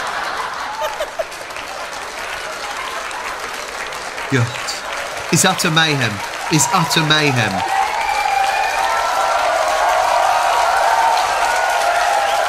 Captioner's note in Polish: Aplauz